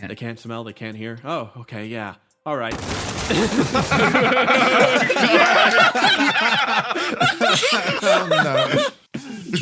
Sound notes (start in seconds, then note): 2.7 crash; 3.2 laughs